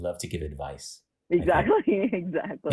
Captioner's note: laughter